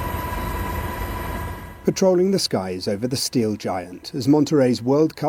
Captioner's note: helicopter whirring